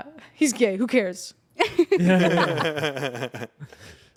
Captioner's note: everyone laughs